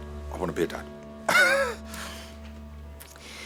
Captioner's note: laughs